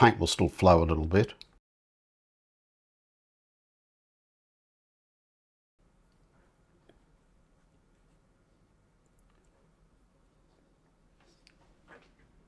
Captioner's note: silence